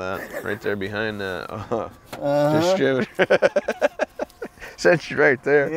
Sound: laughs

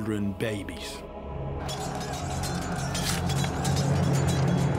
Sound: swords clanging

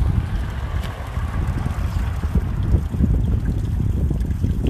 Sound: splash

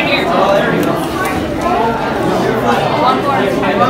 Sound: chatter

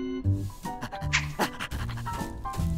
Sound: pounding

